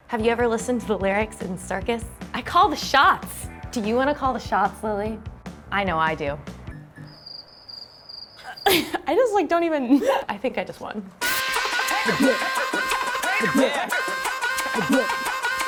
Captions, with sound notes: - Have you ever listened to the lyrics in "Circus?" "I call the shots!" Do you wanna call the shots, Lilli? I know I do. (cricket chirping) - I just like don't even... - I think I just won. (upbeat music)